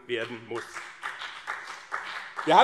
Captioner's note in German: Beifall BÜNDNIS 90/DIE GRÜNEN und CDU